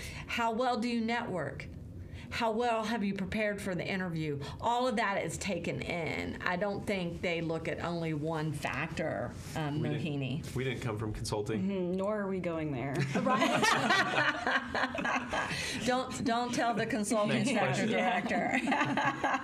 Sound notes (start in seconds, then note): 13.0 all laughing